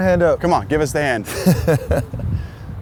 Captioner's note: laughs